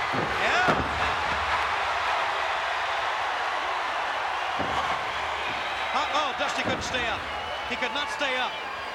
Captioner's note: applause